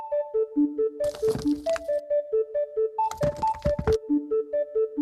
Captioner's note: water splashes; earth rumbles